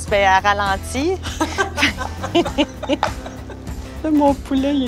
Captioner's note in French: rires